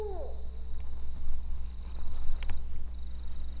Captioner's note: owl hooting